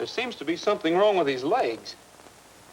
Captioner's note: none